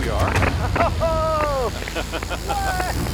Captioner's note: Baratunde cheering; laughs